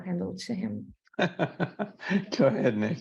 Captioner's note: laughing